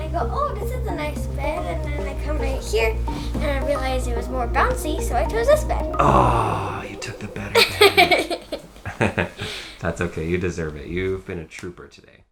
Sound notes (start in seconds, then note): 7.5 laughs